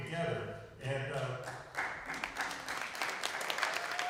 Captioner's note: applause